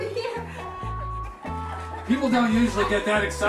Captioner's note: laughing